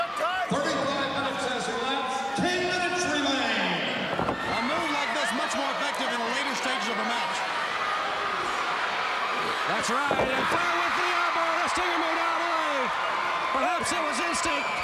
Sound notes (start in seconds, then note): 7.6 crowd cheering